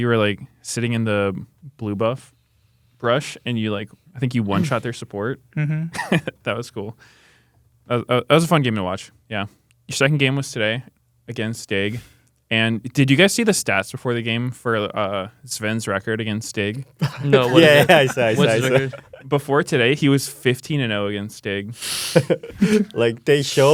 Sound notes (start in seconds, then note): 5.6 laughs; 16.9 laughs